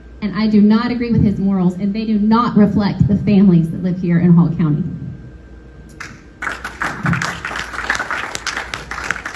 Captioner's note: applause